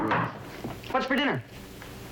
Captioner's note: knocking